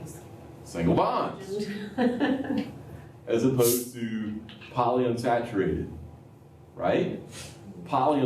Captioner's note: laughter